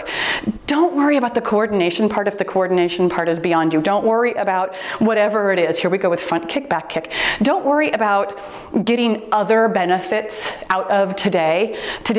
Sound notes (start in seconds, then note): 4.2 timer beeps